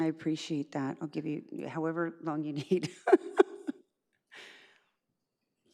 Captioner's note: laughs